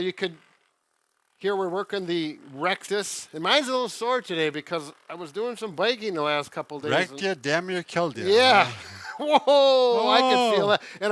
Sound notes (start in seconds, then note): 8.3 laughs